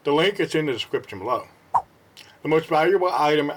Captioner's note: swipe Sound